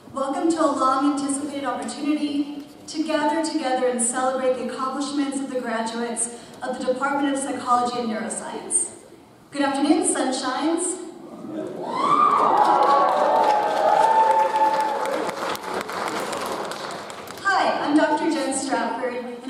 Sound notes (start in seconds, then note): 11.8 audience cheers; 11.9 audience applauds